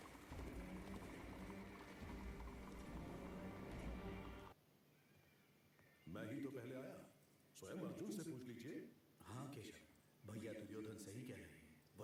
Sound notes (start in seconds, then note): 4.6 peacock calls